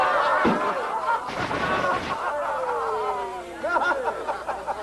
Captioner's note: laughter; laughter